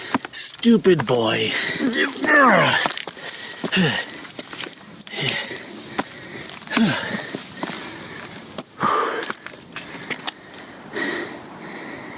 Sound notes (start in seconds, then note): 1.5 grunts loudly; 4.9 breathes heavily; 8.8 exhales